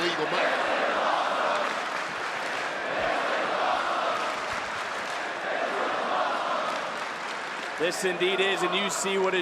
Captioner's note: crowd chants "this is awesome"